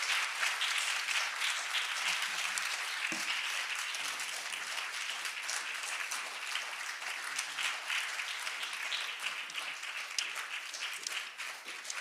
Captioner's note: applause